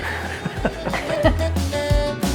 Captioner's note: laughs; upbeat music